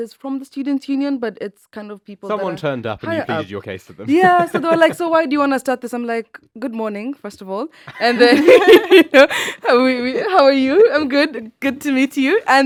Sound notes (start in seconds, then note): 7.9 laughs